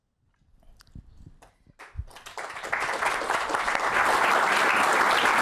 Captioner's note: applause